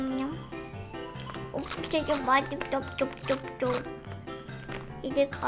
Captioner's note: nom, nom